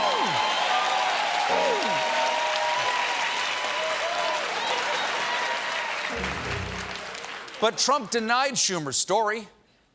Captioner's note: cheers and applause; piano riff